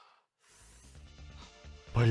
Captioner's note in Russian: моцна ўдыхае